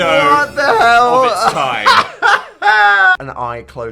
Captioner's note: laughs